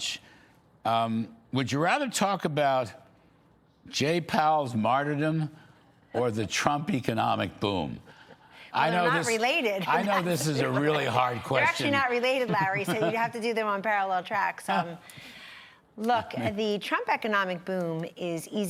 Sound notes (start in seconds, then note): 12.2 laughter; 16.2 laughter